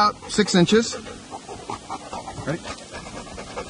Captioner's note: dog panting